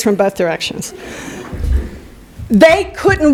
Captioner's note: laughter